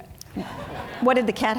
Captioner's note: audience laughing